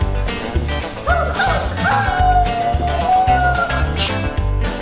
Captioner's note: makes a siren noise